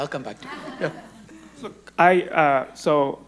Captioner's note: audience laughing